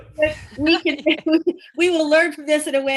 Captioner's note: laughs